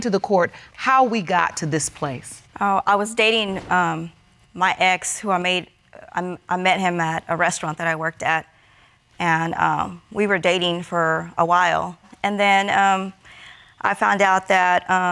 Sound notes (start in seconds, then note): none